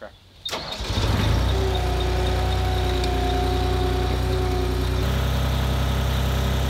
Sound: engine cranks; engine purring

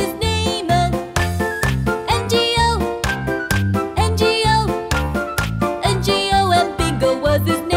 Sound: clap

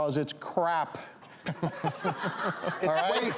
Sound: laughing

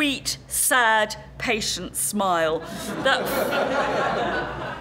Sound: laugh

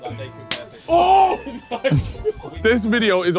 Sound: hand slaps

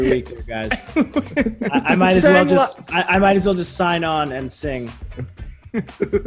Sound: laugh; laugh

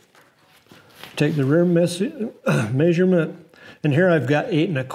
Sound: coughs

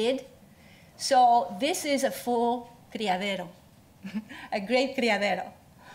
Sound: spanish

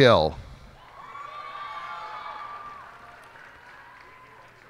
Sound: cheers and applause

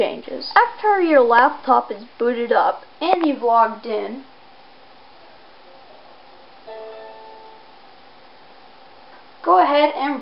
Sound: Windows Login Sound

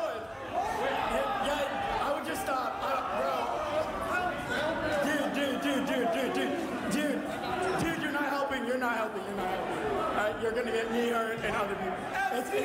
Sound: chanting

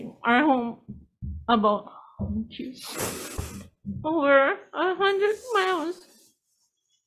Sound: sniffs

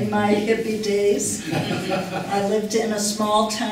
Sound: laughter

